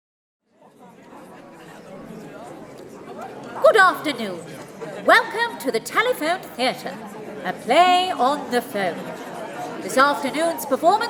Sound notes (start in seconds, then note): 1.2 the sound of chatter. An excited theatre audience